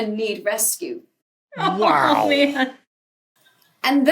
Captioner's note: laughs